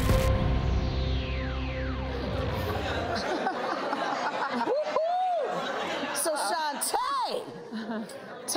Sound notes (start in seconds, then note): 2.4 audience laughing; 7.5 laughs